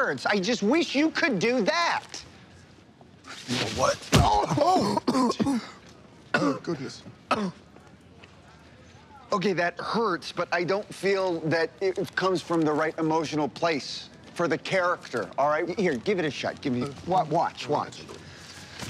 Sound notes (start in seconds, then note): 4.3 groans, coughs